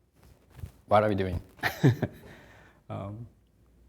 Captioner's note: chuckles